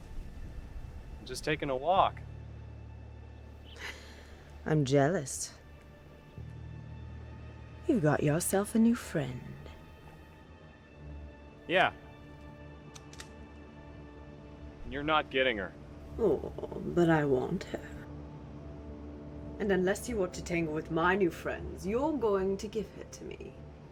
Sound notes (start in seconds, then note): 12.8 gun clicks